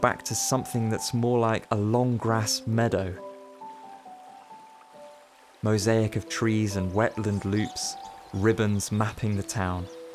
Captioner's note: birdsong